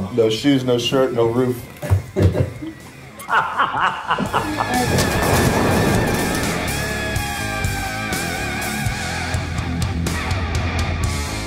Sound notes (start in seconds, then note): 3.1 laughs; 5.1 hard rock music